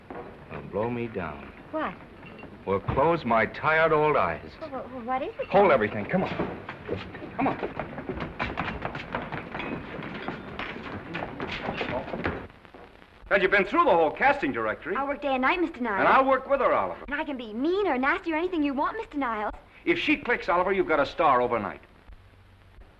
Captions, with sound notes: Well, blow me down... - What? - Well, close my tired old eyes! - Well, what is it--? - Hold everything! Come on...come on! (feet scrambling) And you've been through the whole casting directory! - I'll work day and night, Mr. Niles-- - And I'll work with her, Oliver-- - And I can be mean or nasty or anything you want, Mr. Niles. - If she clicks, Oliver, you've got a star overnight.